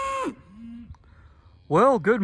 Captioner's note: cow moos